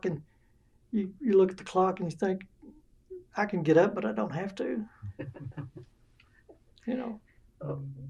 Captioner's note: laughter